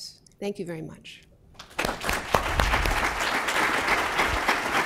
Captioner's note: applause